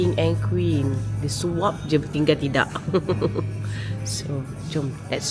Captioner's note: laugh